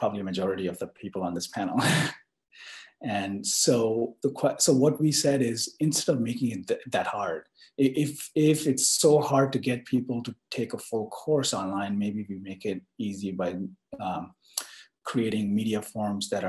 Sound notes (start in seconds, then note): 1.8 laugh